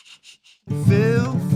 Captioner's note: chuckles